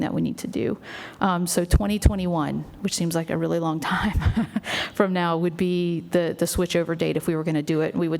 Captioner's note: laughs